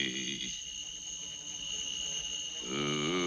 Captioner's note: fly buzzing